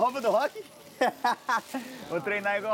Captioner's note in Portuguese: risos